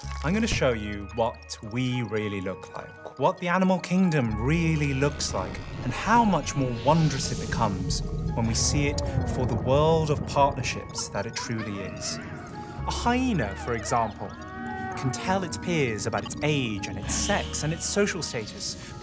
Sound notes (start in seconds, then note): 7.7 animal noises